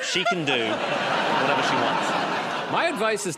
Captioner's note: laughter